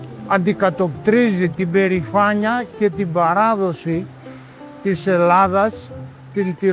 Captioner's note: speaking in foreign language